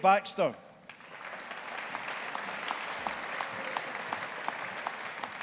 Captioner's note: audience applauding